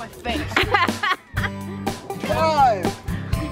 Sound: laughing

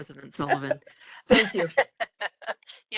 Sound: laugh

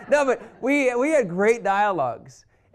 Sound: laughter

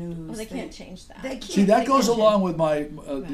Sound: voiceover

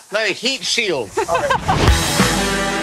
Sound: laughs

